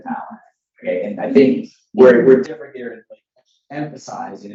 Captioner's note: faintly speaking